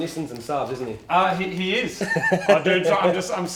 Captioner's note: laughs